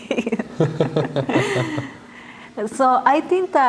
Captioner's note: laughter